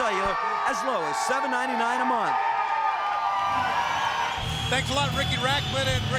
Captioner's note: crowd cheering